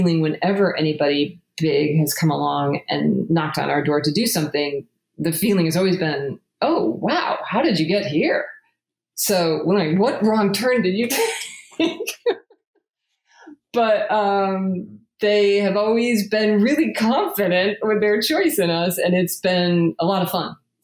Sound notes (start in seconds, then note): 11.2 laughs